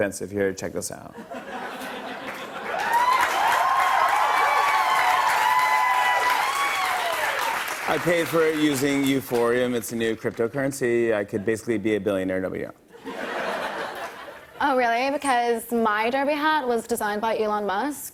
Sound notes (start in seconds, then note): 1.1 laughter; 2.2 cheers and applause; 12.9 laughter